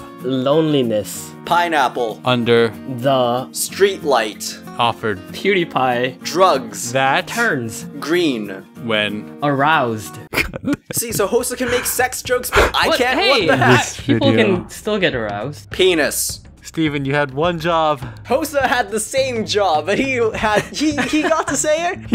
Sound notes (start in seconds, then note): 10.2 laughs